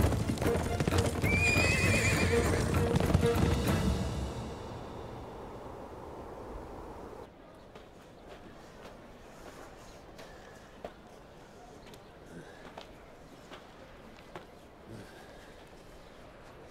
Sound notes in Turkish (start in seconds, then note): 0.0 At nalı sesleri; 0.6 At kişneme sesi